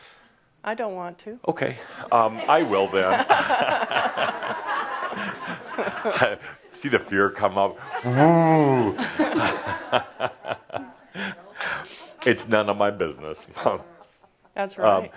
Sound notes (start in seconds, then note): 2.0 laughter; 7.8 more laughter